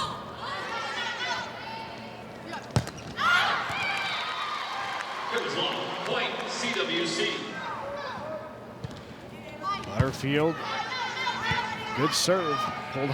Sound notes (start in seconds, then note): 0.2 players shouting indistinctly; 2.7 ball thumping; 9.9 ball thumping